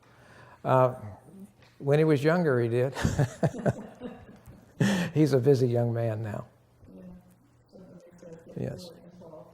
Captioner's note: laughter